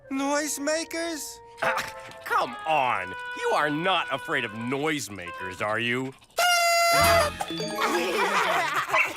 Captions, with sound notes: NOISEMAKERS? AW, COME ON, YOU ARE NOT AFRAID OF NOISEMAKERS, ARE YOU? (NOISEMAKER SQUEAKS LOUDLY, TURNER SCREAMS) (EVERYONE LAUGHS)